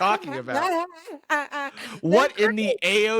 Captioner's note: laughing